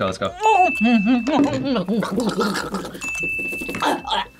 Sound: gurgles

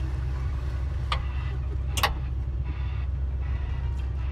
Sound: windshield wiper clicks

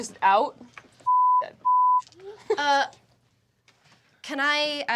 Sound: beep

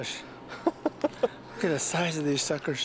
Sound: laughter

